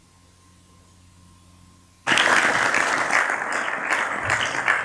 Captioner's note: applause